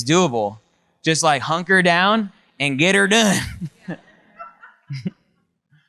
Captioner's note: laughs